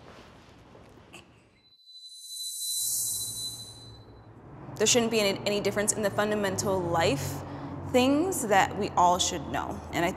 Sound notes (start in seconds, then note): 1.9 bell ringing